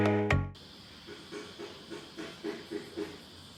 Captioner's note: upbeat elevator music; insects buzzing